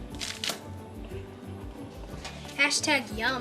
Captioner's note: paper rustling